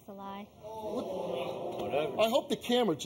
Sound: audience jeering

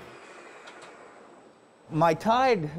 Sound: machine revving

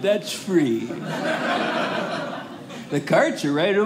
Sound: audience laughing

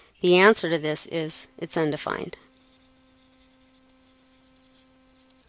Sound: pause in Lecture

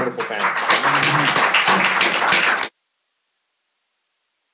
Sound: applause

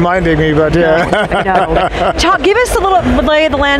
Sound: laughs

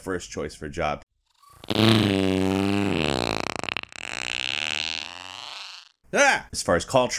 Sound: long fart sound

